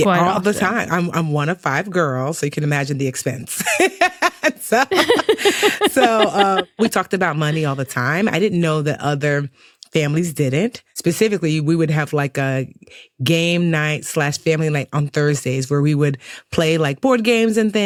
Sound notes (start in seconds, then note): 3.6 both laughing